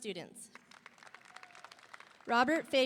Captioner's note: audience applauding; audience cheering